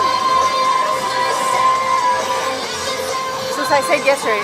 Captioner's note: loud clamoring from the crowd